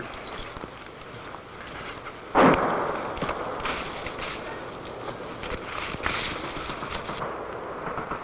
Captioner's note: footsteps